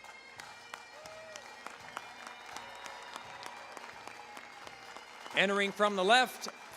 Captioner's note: cheering, applause